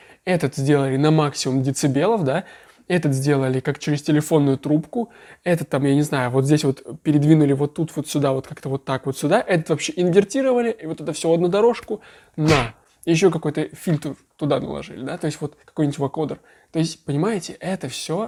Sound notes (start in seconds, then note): 12.4 smash sound effect